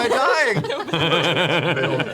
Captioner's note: laughs